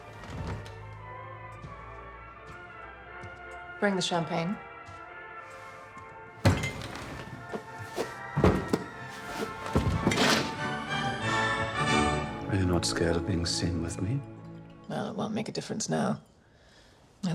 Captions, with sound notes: (dramatic music) Bring the champagne. (bangs on table) (dramatic music) - Are you not scared of being seen with me? - Well, it won't make a difference now.